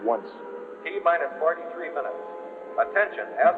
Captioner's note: man on PA